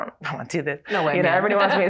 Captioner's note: chuckles